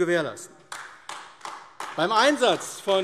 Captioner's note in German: Beifall AfD